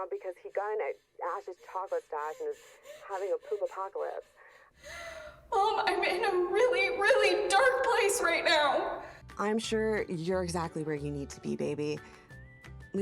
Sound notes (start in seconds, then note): 4.6 Abby pants; 9.4 cheerful music